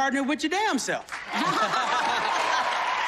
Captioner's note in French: laughter